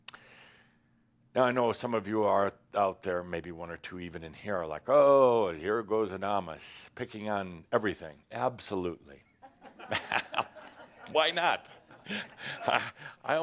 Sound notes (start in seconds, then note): 11.7 some chuckles